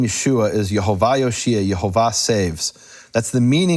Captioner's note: speaks in foreign language